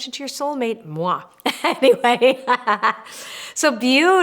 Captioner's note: laughs